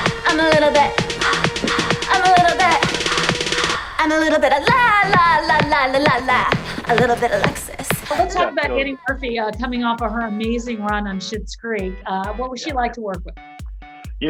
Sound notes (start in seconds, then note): 5.1 vocalizes